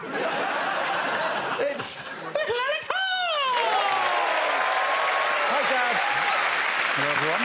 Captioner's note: high pitched voice